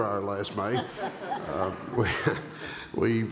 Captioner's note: laughter